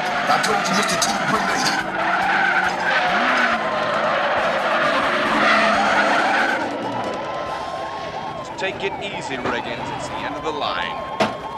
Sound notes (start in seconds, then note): 2.2 tires screeching; 5.5 K.I.T.T. brakes